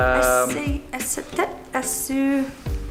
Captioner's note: stammers